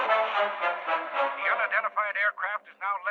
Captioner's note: man on radio